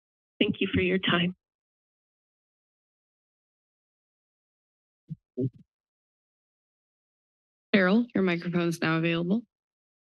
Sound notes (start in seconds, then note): 1.7 silence